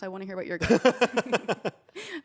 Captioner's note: laughs